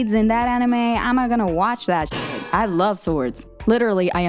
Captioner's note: banging